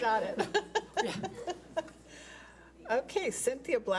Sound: laughs

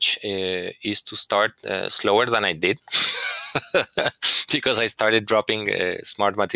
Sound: laughter

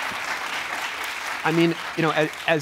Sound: applause

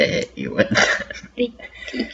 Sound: evil laugh

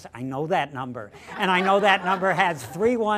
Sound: laughter

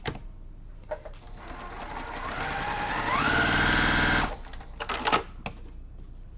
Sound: sewing machine resounding

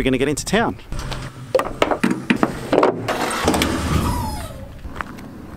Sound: knocking and creaking

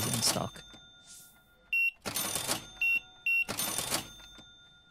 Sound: beeping

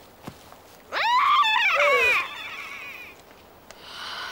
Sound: squawking

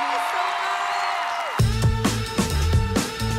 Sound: crowd cheering; upbeat music

